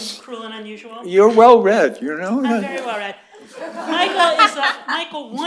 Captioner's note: laughter